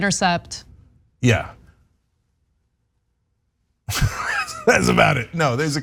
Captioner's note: laugh